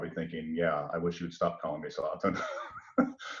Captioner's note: laughs